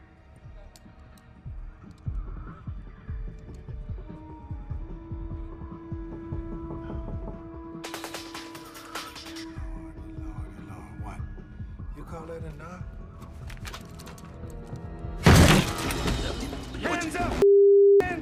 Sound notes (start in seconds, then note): 7.3 gun tapping; 15.2 kick thudding